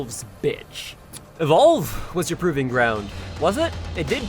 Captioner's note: tsks